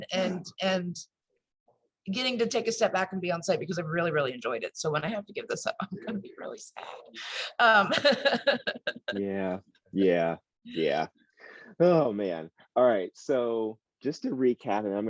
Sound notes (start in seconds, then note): 7.8 laughs